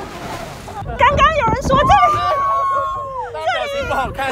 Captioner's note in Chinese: 尖叫